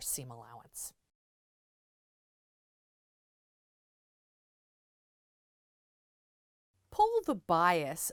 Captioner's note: no Sound Present